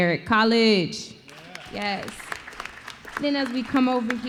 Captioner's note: applause